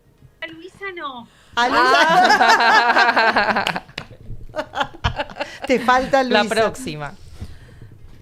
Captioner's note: laughs